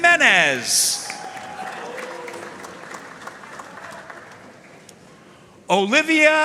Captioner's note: audience cheering and applauding